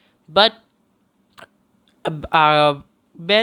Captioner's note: breathes